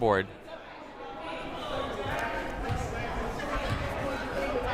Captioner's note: crowd murmuring